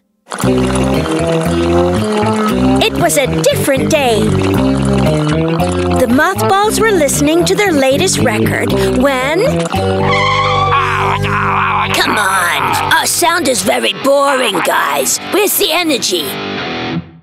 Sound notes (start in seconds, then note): 8.8 grumbling; 10.0 tires screech